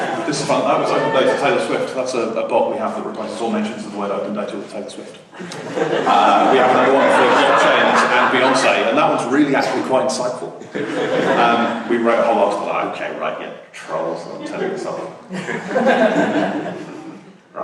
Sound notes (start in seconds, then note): 5.3 laughter; 15.2 laughter